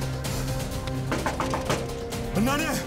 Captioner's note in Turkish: Kapıyı çalıyor